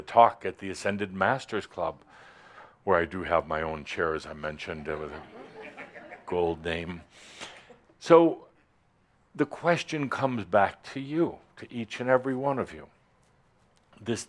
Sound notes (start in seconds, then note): 7.0 a few chuckles